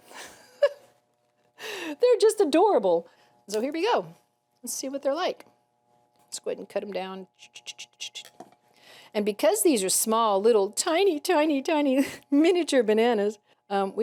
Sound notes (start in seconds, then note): 0.0 laughing; 7.7 chattering